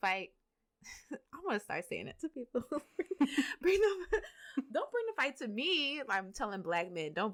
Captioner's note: laughter